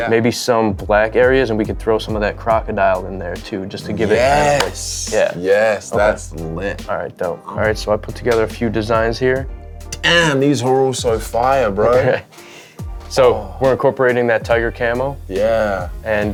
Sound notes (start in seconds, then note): 4.0 claps hands; 11.9 laughs